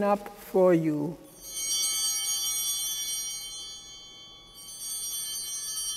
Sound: bell ringing

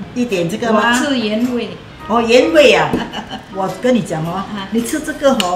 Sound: laughs

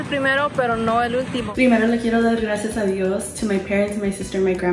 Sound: speaks in foreign language

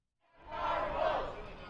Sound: nats of protesters

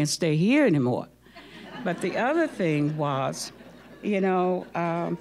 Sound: audience laughing

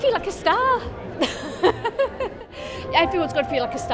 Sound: laughs

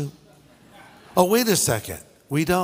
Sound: audience laughing

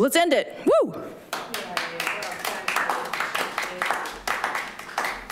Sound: group clapping

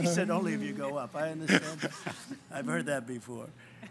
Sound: laughs

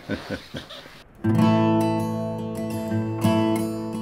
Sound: travel partner chuckling

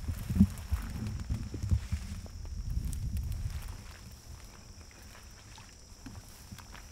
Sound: grass crunching; water squelching

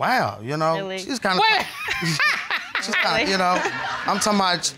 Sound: laughs

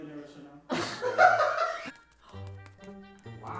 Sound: laughter

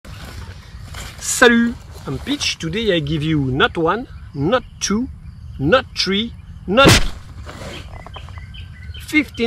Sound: bang

